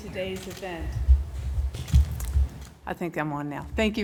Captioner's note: microphone turns on